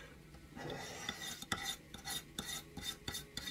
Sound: scraping

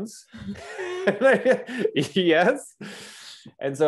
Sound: both chuckles

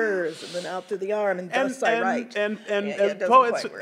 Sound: stutters

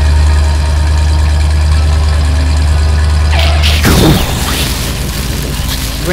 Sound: engine noise; explosion; skid

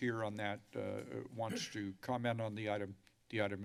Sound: clears throat

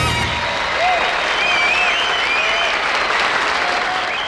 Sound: crowd applauding

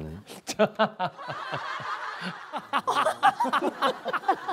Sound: laughing

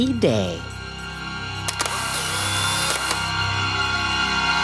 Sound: camera clicking

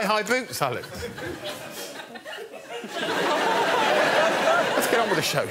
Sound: laughter

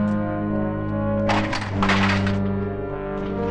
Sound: lightly clatters; ominous music

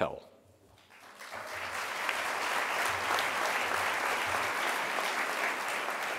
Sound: audience applause

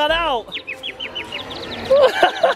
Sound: birds tweeting; laughing

